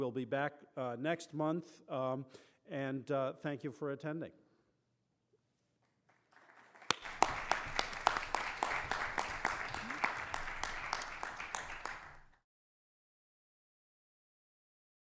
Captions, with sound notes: We will be back next month, and thank you for attending. [APPLAUSE]